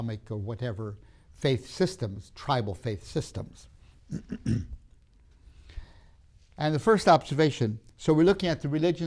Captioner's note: clears throat